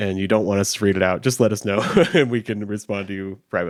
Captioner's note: chuckles